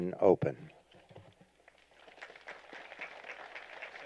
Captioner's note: applause